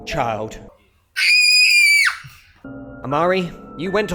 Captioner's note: screams